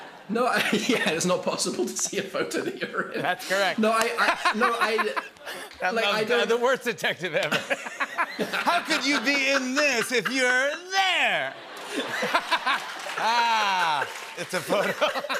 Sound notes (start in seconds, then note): 10.9 laughter, applause